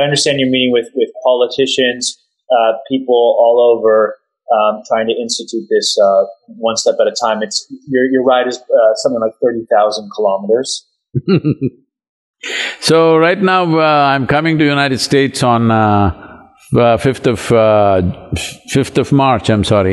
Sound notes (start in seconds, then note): 11.1 Sadhguru laughs